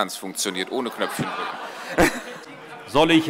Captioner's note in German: Heiterkeit